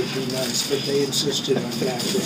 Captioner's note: laughing